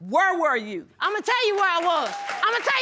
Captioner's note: audience applauding